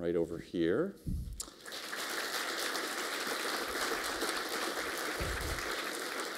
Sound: applause

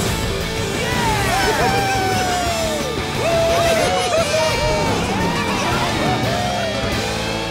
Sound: cheering

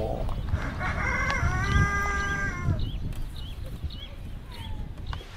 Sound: chickens clucking

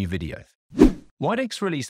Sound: swooping transition

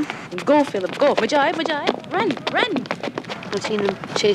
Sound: speaking in foreign language

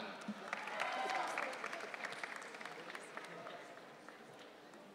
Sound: audience cheering

